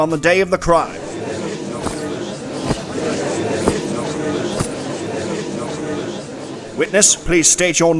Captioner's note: gallery chattering, spurs jangling